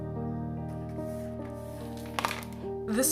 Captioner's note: broom swishes, cut plastic bits clatter